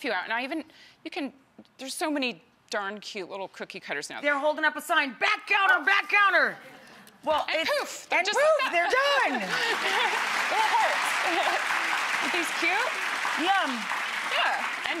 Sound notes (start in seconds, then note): 9.0 audience applauding